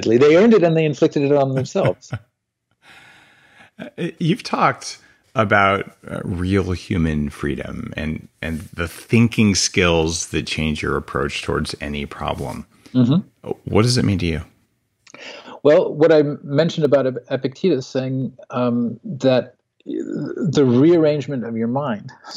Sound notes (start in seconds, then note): 0.0 laughs; 3.7 laughs